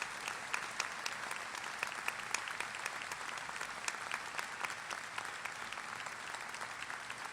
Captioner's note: applause